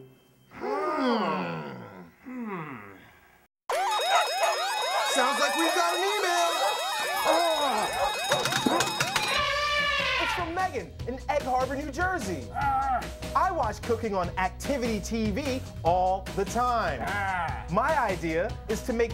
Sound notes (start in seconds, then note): 3.7 alarm sounding; 8.9 computer keys clacking; 9.6 elephant bays